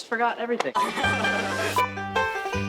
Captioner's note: laughter